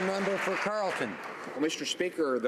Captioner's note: some Applause